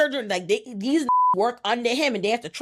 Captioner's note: beep